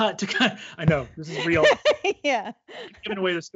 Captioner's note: laughs